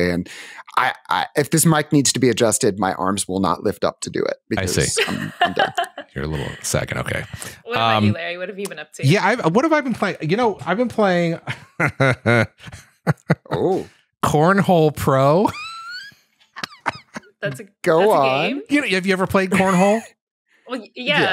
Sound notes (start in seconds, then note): 4.4 laughs; 11.4 chuckles; 16.5 laughs